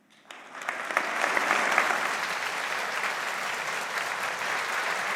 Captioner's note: audience applauding